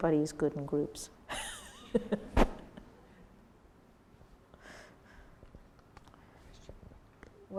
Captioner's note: laugh